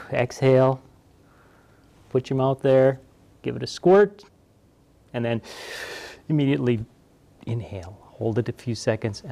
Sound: breath; breath

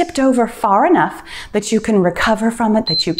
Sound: timer beeps

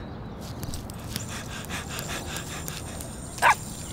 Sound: runner panting; dog barking

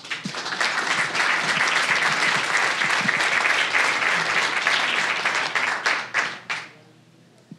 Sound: applause

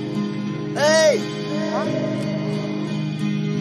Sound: echo

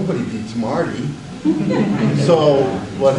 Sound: audience laughs

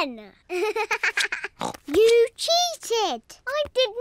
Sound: laughs; snorts

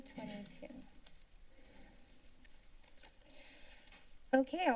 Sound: silence

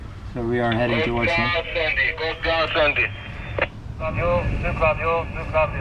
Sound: radio chattering

